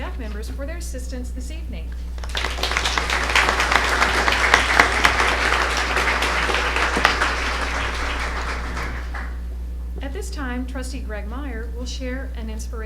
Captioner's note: applause